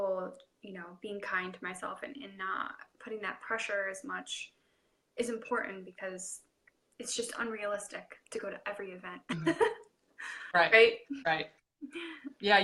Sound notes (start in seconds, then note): 9.3 laughing